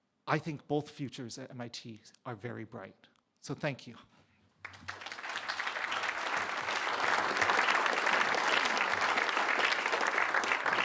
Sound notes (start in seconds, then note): 4.6 applause